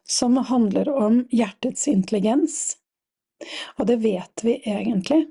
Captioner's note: none